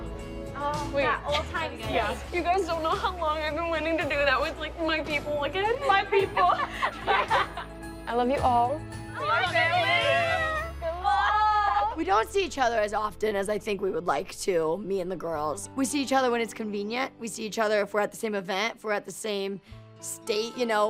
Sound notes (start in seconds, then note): 4.1 chokes up; 5.8 laughter